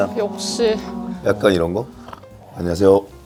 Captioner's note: haha